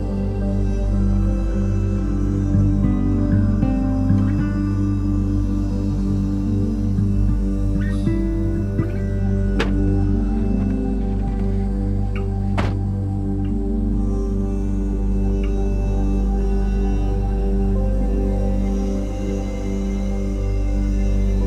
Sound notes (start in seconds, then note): 12.4 door thuds; 18.7 somber music